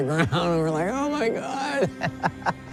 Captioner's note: laughs